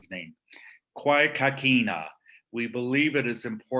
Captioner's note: speaking Indigenous language: "Kwé Kakina"